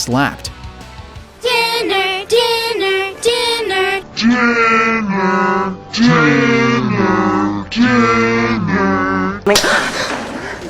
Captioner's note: slow and demonic; slap